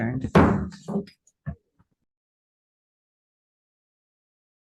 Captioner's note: gavel bangs on table